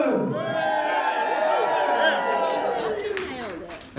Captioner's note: cheering and Applause